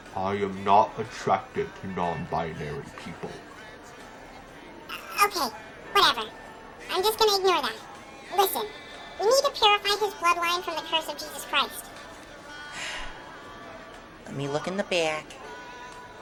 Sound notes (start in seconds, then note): 5.0 stammering; 12.8 Pill Bottle sighs